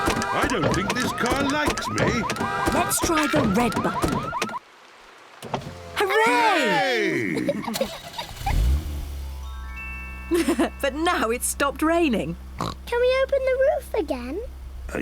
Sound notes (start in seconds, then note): 5.0 alarm stops; 7.0 all laughing; 7.7 engine starts; 10.3 laughs; 12.6 oinks